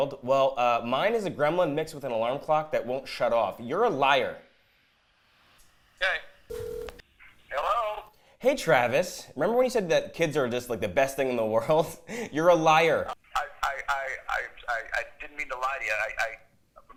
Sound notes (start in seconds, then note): 6.5 phone rings; 11.9 laughs